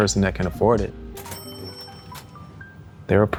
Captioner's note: cash register dings